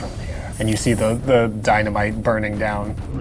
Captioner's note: hissing